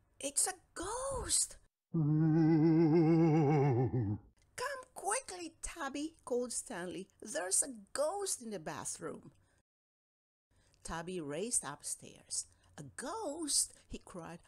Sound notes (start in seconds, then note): 2.0 sound of a ghost